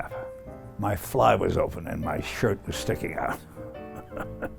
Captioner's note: chuckles